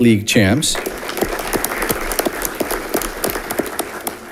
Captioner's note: audience clapping